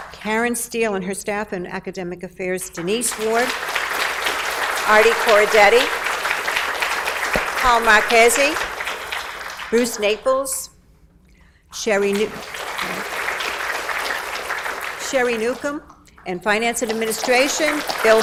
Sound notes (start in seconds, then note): 0.0 audience applauds; 3.6 audience applauds; 11.8 applause drowns out speaker